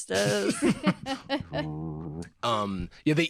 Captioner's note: meditative hum